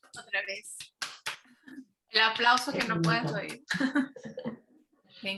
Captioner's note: speaking Spanish